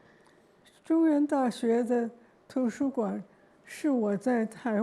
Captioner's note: Mandarin